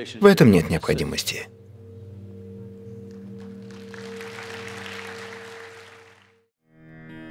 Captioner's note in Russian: Апплодисменты